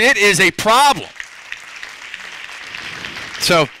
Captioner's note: applause